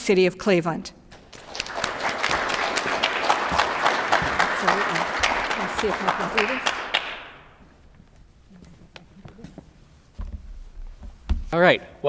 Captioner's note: applause